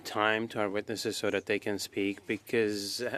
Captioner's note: speaking French